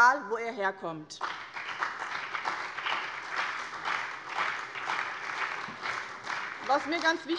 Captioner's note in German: Allgemeiner Beifall